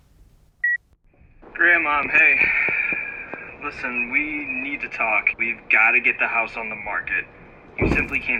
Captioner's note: answering machine beep